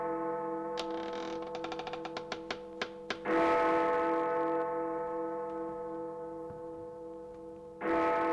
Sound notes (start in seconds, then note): 0.8 A creaking door